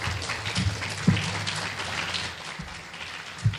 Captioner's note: clapping